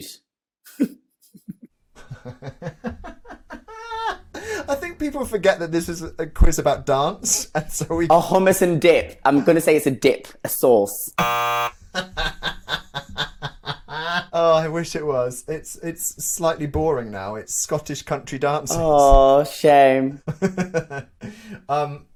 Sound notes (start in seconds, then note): 0.3 both laugh; 11.2 buzzer sounds; 11.9 laughs; 20.2 laughs